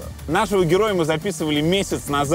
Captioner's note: none